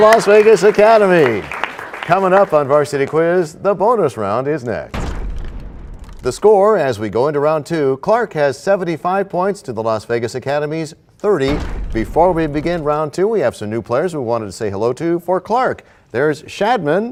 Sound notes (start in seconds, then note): 4.9 crashing sound